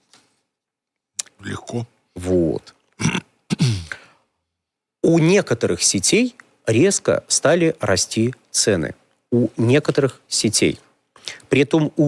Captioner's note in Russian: откашливается